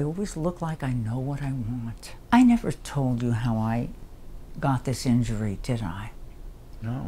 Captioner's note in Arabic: none